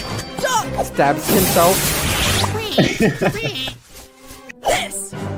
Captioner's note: laughs